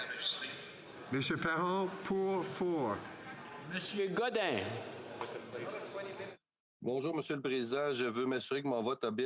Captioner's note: speaking French